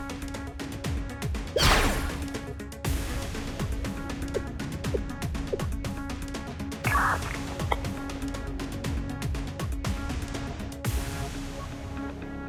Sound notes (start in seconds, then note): 5.6 whisper